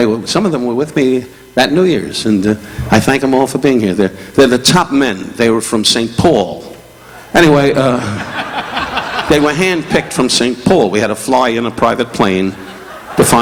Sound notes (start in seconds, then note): 7.8 audience laughing